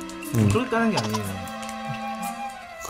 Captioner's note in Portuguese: Haha